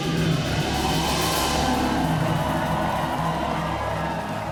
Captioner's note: audience cheers